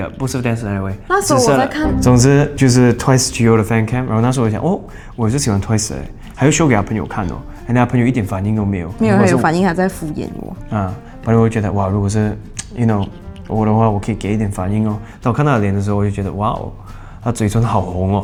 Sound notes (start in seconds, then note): none